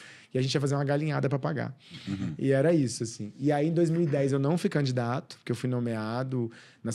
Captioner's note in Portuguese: limpando a garganta